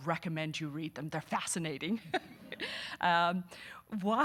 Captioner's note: laughing